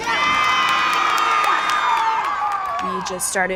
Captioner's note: team cheers